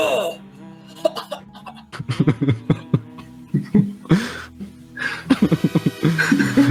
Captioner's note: laughter